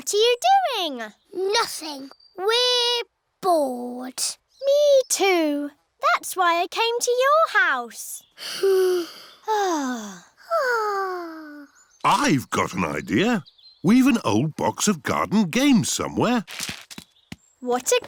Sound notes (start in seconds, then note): 8.5 all sigh